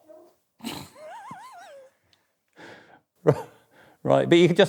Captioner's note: laughing